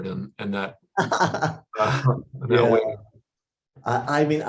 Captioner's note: laughter